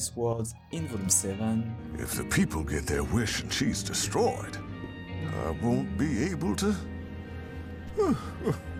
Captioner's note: sob